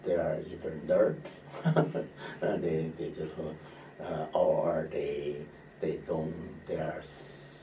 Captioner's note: laughs